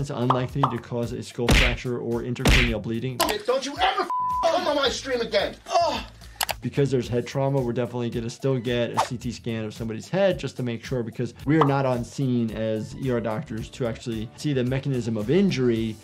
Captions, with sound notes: unlikely to cause a skull fracture or intracranial bleeding. - Don't you ever (beep) come on my stream again! (groans) - Because there's head trauma, we're definitely gonna still get a CT scan of somebody's head just to make sure because we are not on scene as ER doctors to actually see the mechanism of injury.